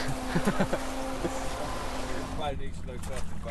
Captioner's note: laughing